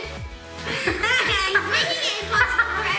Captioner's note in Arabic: يضحك